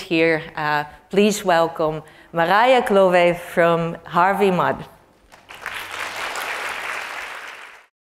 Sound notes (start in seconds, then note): 5.2 applause